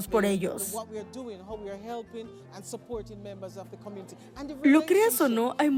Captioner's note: Hablando idioma extranjero